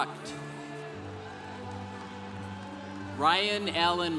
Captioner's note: congregation cheering